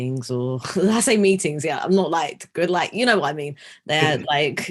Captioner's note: chuckling